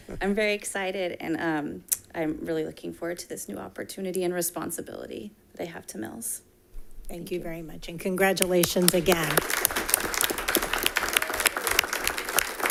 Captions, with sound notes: I'm very excited and I'm really looking forward to this new opportunity and responsibility that I have to Mills. - Thank you very much and congratulations again. (all clapping)